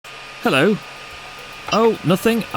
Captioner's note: beep....beep